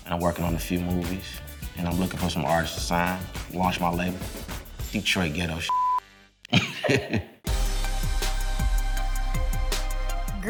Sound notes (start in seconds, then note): 5.7 beep; 6.5 laughing; 7.4 upbeat music